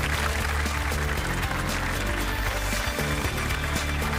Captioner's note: applause